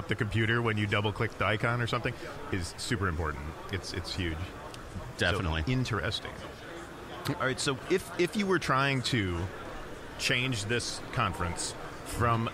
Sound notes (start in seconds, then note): none